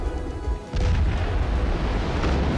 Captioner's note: explosions